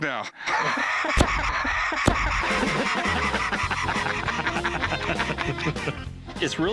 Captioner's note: laughter